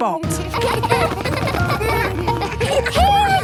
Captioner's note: laughter